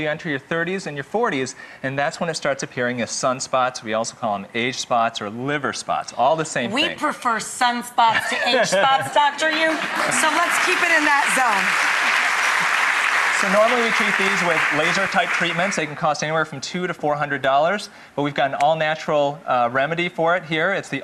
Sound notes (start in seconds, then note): 11.8 applause